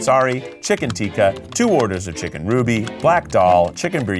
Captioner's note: graphics clicking